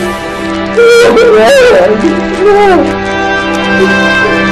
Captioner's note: sobbing